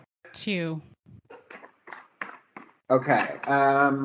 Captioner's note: shuffling